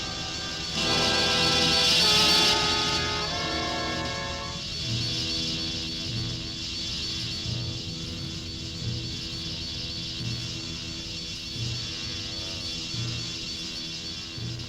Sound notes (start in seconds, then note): 0.0 menacing orchestral music; 0.0 wasps buzzing